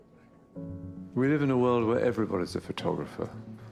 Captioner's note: voiceover